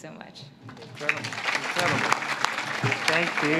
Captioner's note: audience claps